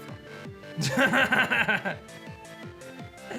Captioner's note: laughs